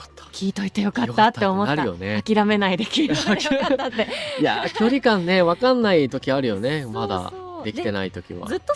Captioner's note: laughs